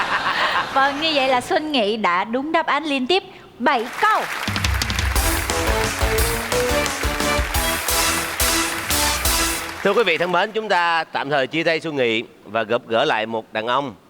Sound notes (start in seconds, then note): 0.3 laughing; 9.8 clapping